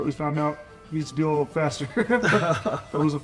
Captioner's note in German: lacht